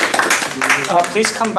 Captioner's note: audience applauding